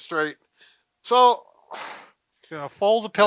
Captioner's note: exhales